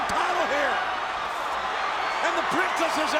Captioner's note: audience cheers